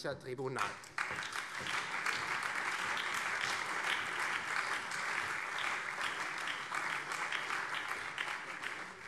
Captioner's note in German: Beifall Freie Demokraten, CDU, SPD und BÜNDNIS 90/DIE GRÜNEN